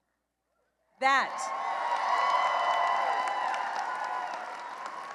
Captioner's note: cheering and applause